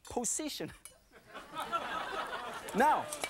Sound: audience laughing

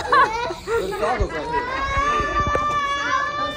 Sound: laughing

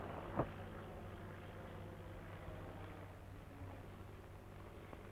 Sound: engine rumbling

